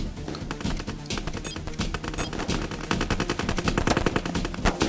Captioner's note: bleep sound as buttons are pushed